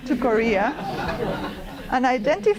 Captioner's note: laughter